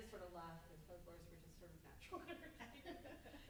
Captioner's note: laughs